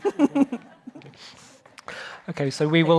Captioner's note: audience laughing